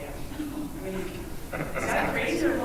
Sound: laughing

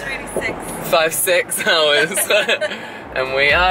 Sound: laughs

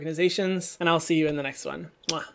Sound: kisses

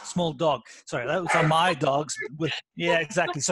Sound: dogs barking

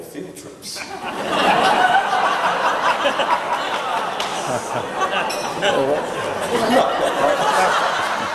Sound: laughs

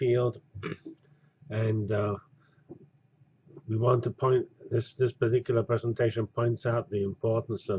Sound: cough

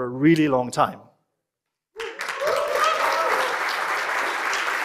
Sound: cheering and applause

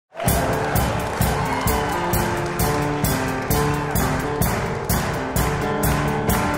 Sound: audience clap; upbeat disco music

